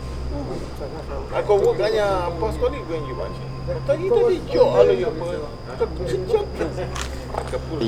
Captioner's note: speaking in maya chol